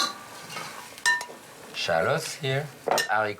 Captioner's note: spatula clatters